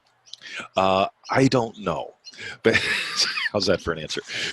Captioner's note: laughing